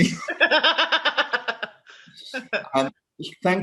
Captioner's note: laughter